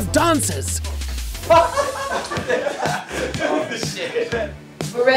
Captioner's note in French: rire